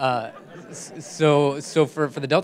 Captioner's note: laughter